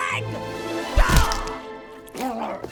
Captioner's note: foot thudding; bucky grunts